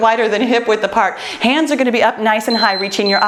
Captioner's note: timer beeps